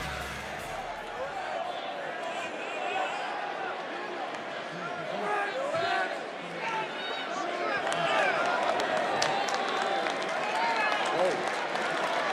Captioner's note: crowd applause